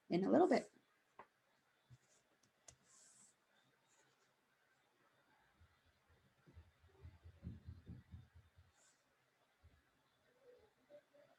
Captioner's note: silence